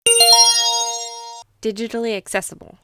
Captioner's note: chime